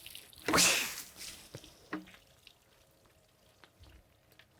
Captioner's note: water splashing